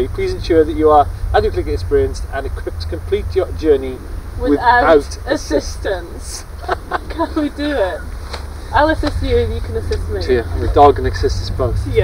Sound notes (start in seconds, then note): 6.1 laughing